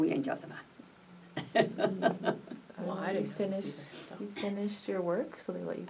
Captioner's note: laughs